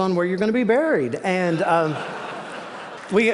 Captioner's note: laughter